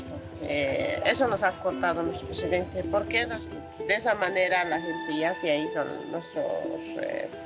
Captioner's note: speaking in foreign language continues